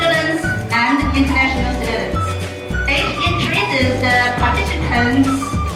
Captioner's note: speaks softly